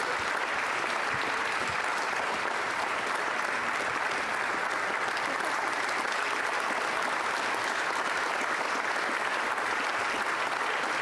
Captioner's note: applause